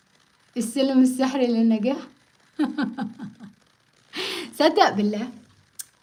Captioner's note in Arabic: ضحك